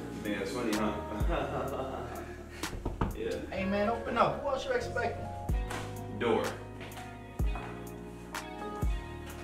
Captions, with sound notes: Think that's funny huh (Laughs) (Knock At Door) Aye Man! Open up! who else you expecting? Door